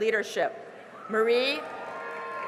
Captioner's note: cheering and applause